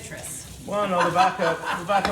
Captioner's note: laughs